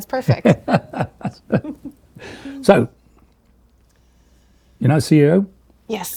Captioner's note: laughing